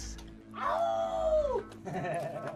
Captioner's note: Patrick howls; Patrick laughing